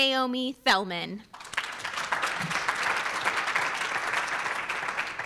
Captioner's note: audience applauds